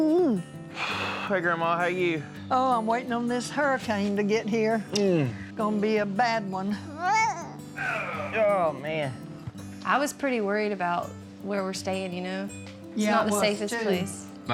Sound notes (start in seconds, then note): 4.9 smooch